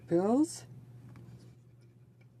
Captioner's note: speaking French